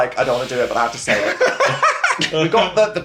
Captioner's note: laughs